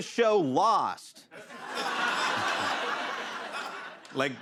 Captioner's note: laughter